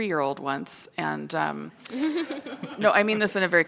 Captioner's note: people laugh